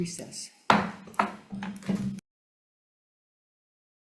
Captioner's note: mallet thudding